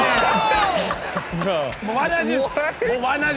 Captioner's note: laughing